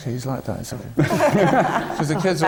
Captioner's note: laughter